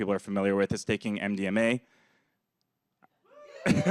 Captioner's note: laughs